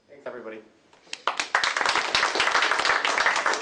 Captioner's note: applause